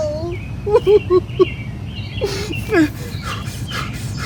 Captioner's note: sobbing